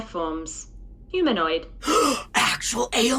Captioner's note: Dusty gasps